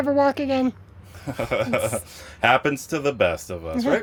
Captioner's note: laughs